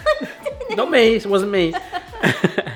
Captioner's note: both laughing; chuckles